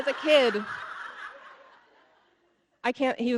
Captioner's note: audience laughing